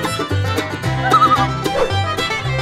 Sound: loon call

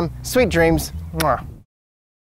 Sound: mwah

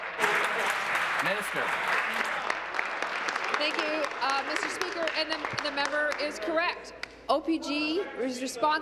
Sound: applause

